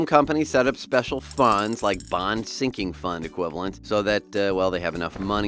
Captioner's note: cash falling